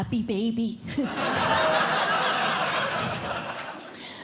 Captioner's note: laughter